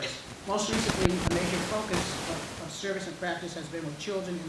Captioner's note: static hissing loudly